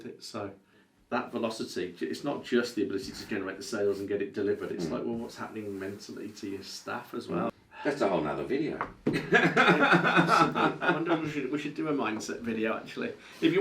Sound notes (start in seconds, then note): 9.2 laughs